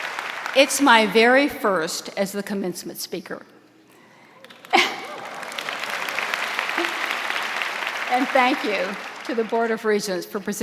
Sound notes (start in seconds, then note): 4.4 audience applauding; 4.6 laughs